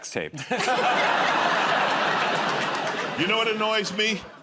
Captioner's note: laughter